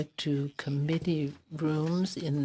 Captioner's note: speaking French